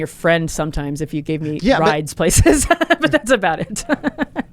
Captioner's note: laughs